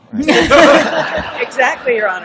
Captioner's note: laughter